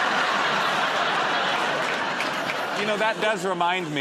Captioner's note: laughter